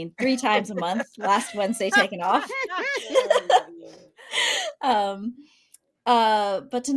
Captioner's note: group laughing